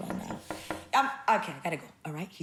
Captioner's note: knocking